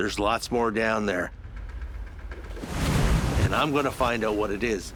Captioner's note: splashing